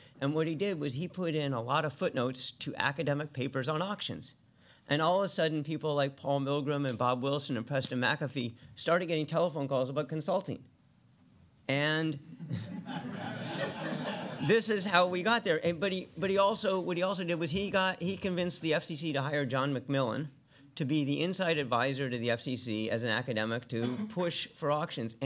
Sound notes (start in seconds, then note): 12.4 laughter